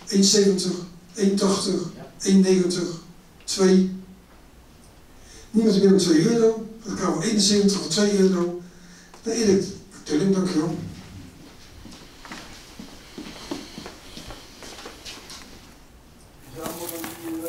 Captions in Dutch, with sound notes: € 1,70. € 1,80. € 1,90. € 2,-. Niemand meer dan € 2 Euro ? Dan gaat kavel 71 voor 2 Euro... ...naar Eric Tulling. Dankjewel. [VOETSTAPPEN]